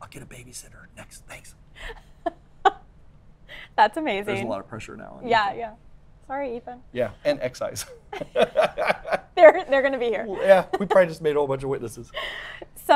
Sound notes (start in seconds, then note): 2.6 laughs; 7.7 laughs